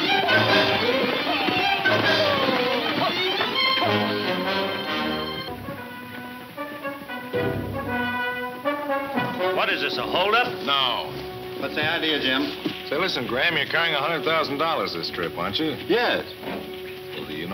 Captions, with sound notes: (shouting gibberish) (heroic western music) - What is this, a hold up? - No. - What's the idea Jim? - Listen Graham, you're carrying $100,000 this trip, aren't you? - Yes. - Well do you know that the Wolf is in town